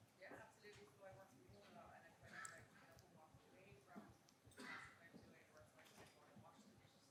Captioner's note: audience member indistinctly chattering